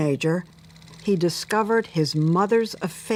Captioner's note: projector clattering